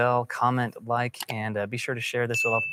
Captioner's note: bell dinging